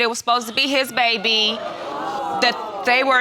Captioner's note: audience gasps